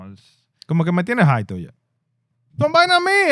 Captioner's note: speaking In Foreign Language